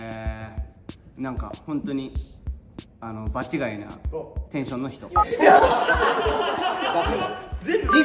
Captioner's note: laughs